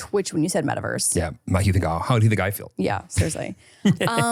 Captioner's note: laughs